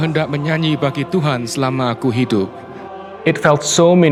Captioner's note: prayer in Bahasa Indonesia